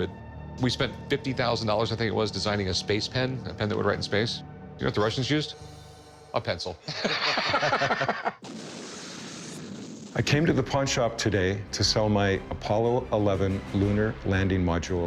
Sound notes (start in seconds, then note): 6.8 laughs; 8.1 rocket engine revs